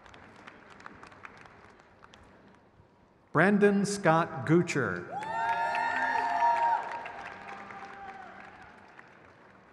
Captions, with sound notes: Sakinah Devon. (crowd cheers)